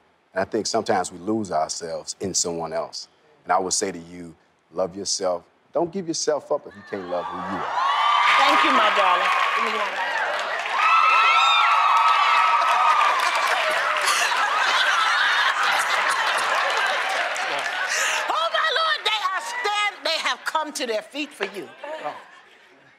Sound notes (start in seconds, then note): 8.0 cheering; 10.7 cheering; 13.5 laughs